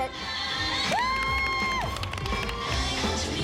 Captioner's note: applause and cheering